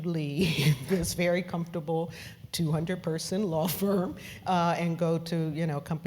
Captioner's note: laugh; laugh